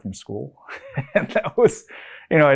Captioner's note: laughs